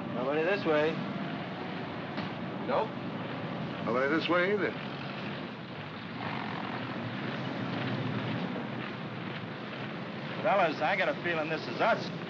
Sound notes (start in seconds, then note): 5.5 vehicles rumbling & feet marching; 12.1 feet marching